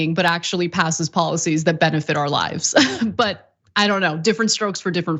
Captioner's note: laugh